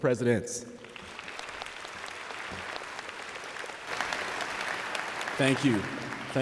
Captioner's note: applause